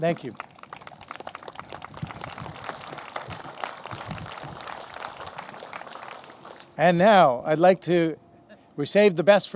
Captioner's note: applause